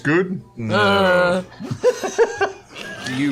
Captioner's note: dissenting grunt